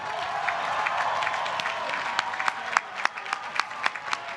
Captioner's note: applause